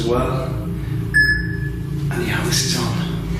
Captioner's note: beeping